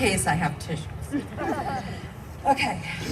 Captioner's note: laughter